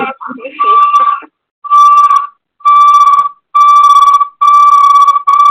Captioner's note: feedback noise